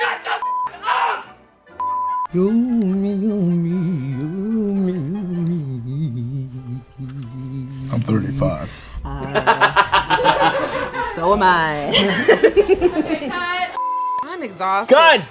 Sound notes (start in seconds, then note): 1.8 beep; 9.0 laughs; 12.1 everyone laughs; 13.8 beep